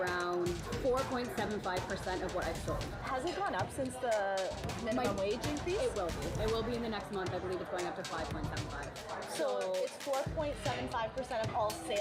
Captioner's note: servers and reporter talking